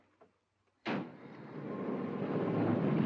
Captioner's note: truck door closes